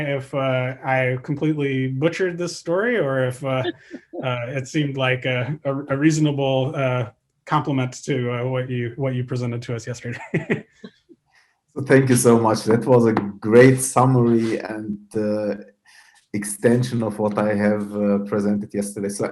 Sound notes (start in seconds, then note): 7.6 laughs